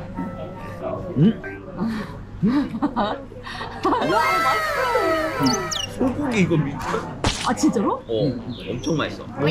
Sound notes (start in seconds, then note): 4.1 crying